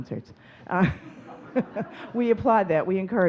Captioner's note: audience chuckling